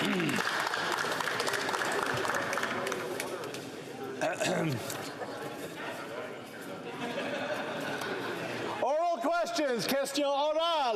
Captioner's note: some Applause